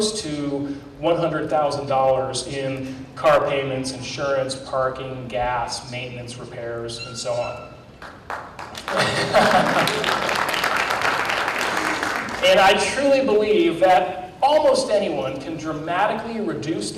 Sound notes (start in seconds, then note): 8.0 applause